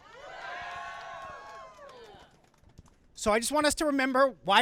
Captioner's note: crowd cheering